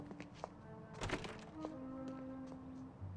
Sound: A sound of building door opening

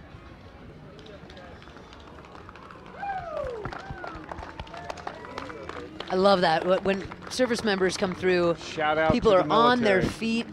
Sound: applauding

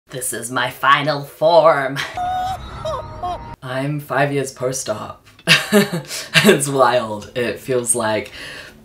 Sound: laughs maniacally

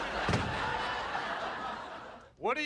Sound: door shuts; audience laughing

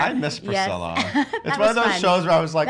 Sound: chuckles

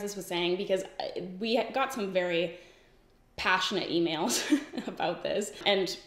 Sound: giggles

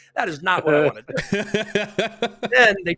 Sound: laughter

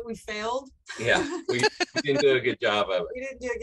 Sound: laugh

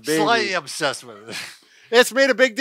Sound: laughs

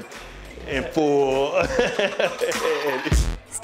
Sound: laughs

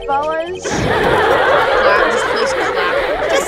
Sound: laugh track

